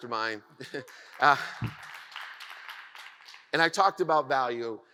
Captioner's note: audience applauds